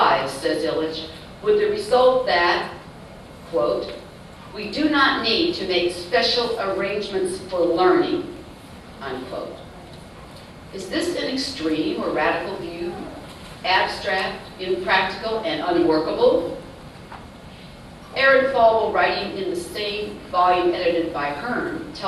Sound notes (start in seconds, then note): none